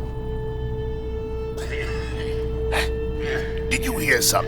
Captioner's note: Cydar coughing